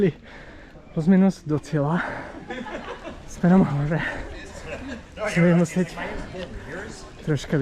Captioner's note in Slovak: smiech